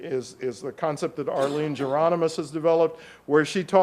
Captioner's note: audience member coughs